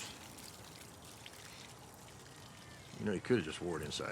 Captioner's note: water splashing